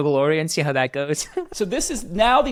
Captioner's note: laughs